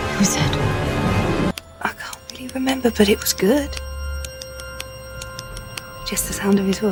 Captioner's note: tapping repeated four beats